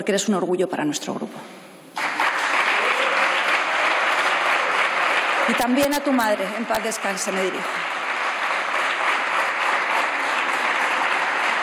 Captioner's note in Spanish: Aplausos